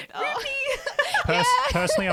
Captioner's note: laughs